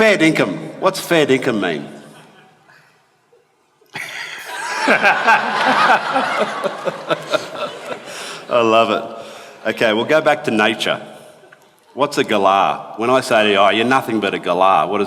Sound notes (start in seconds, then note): 3.9 laughter